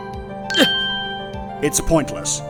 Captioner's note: grunt